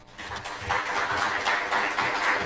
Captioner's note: applause